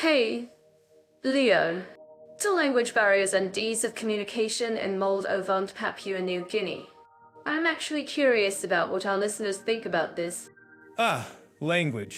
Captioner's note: laughs